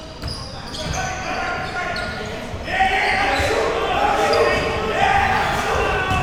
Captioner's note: audience chattering and yelling